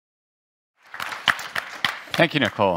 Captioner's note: people applaud